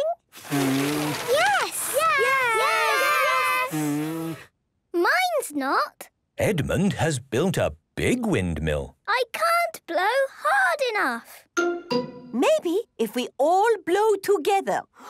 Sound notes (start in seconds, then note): 0.3 blowing, fluttering; 3.5 blows